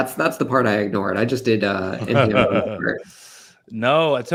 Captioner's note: laughter